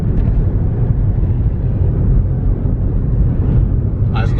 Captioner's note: wind whooshing